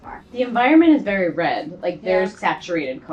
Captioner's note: woman's Voice